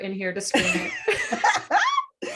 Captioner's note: laughter